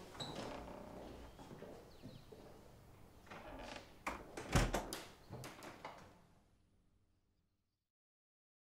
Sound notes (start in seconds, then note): 4.5 latch clicking